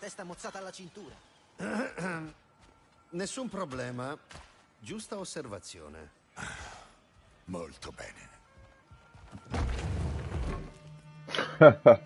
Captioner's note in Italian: schiarire la voce